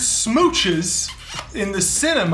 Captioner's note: smooch